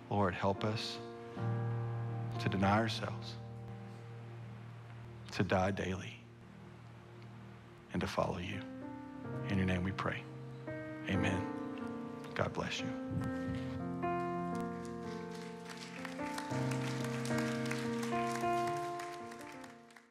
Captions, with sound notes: Lord, help us to deny ourselves, to die daily, and to follow You. In Your Name, we pray, Amen. God bless you. (gentle piano music) (congregation applauds)